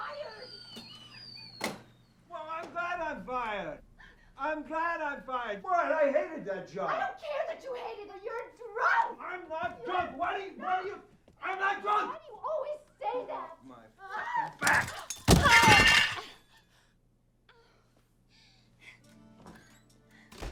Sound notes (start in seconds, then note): 0.0 whistles; 18.3 woman whimpers